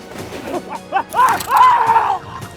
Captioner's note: screams